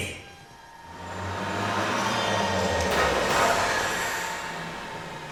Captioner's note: machine noises